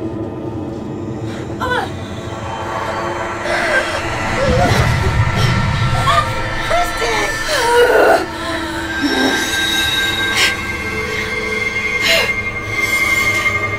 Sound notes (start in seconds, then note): 2.0 grunting; 7.7 dramatic music; 7.7 grunting